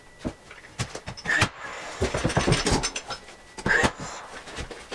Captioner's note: tool whirring